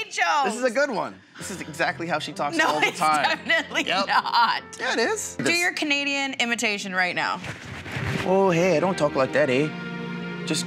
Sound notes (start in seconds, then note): 4.3 laughs; 8.3 mimicking Canadian accent